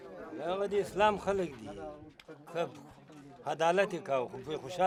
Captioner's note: speaks in foreign language